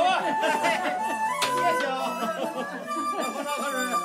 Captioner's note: men laughing